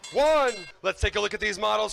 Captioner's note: bell ringing